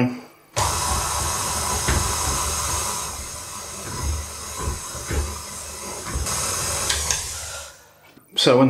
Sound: machine whizzin again

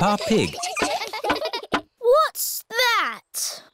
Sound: all giggling

